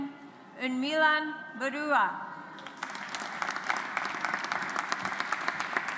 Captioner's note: audience applauds